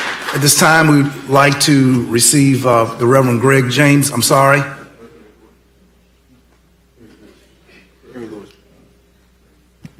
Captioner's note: applause